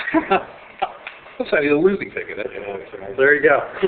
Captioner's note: laughing